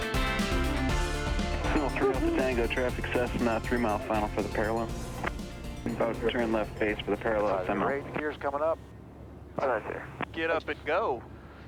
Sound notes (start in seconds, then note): 2.1 man on radio speaking faintly